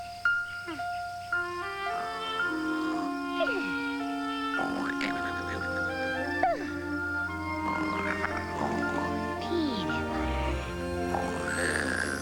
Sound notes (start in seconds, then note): 4.5 snore